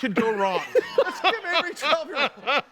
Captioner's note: all laughing